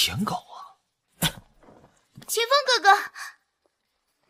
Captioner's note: cough cough